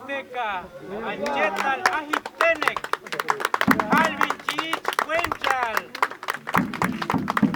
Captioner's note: speaking Tének